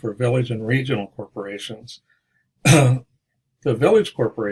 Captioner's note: cough, clears throat